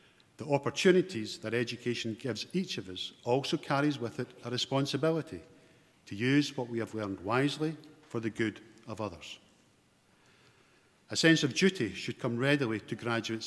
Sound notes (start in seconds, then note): none